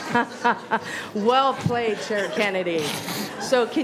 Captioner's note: laughter